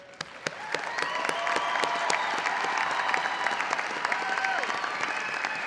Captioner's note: audience cheering and applauding